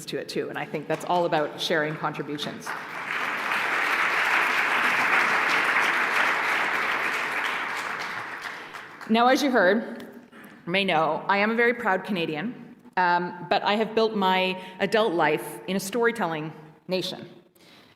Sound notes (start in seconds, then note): 2.2 applause